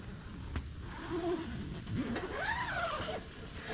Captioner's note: zipper